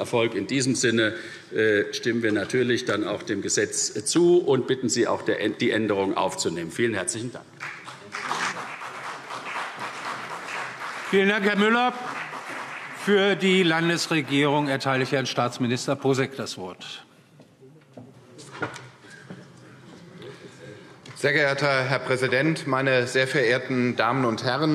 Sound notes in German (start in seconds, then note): 7.6 Beifall CDU und BÜNDNIS 90/DIE GRÜNEN